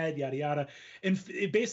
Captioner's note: blabs softly